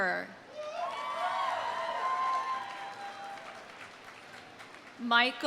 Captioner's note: audience cheering; audience applauding